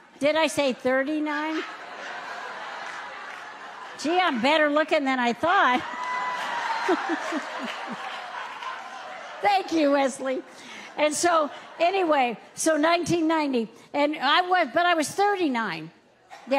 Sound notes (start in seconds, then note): 6.7 audience chuckles